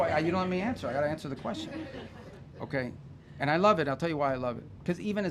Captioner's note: laughter